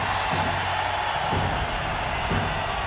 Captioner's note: crowd cheering